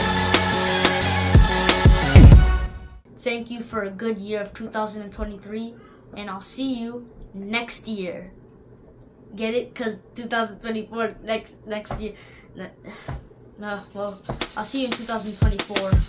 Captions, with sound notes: Thank you for a good year of 2023 and I'll see you next year Get it? Cause 2024 is next next year (sigh) Well I'll see you in 2024